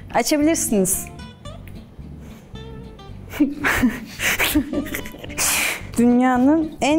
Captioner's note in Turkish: Gülüşmeler